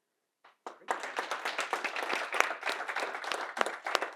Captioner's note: participants clapping